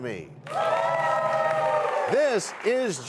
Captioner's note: cheers and applause